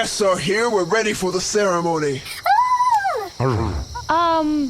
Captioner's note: Shataina and Juno cheer